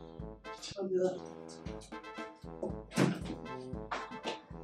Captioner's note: in Spanish